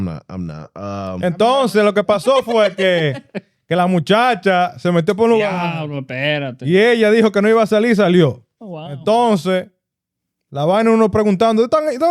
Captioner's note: speaking In Foreign Language